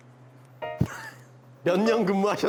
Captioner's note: haha